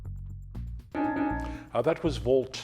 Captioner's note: timer beeping